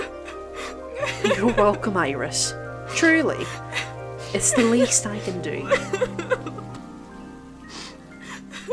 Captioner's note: Iris crying